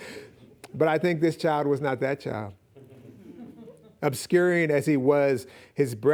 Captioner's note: audience laughing